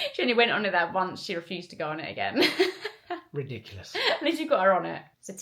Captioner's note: laughter